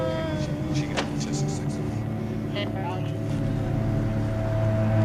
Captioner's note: groaning